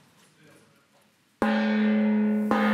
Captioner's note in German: Gong